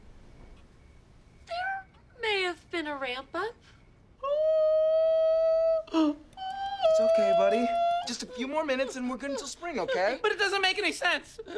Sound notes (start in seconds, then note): 4.2 ABED shrieking